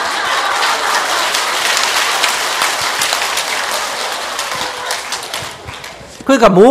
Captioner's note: audience Laughter